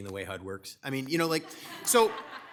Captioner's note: attendees laugh